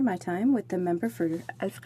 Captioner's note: speaking in french